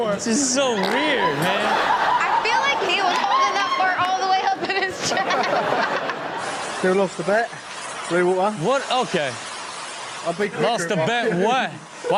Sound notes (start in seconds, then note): 4.8 laughs; 5.9 audience laughs